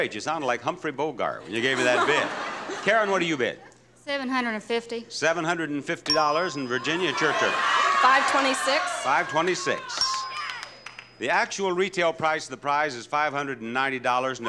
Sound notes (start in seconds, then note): 6.0 bell dings; 9.9 bell dings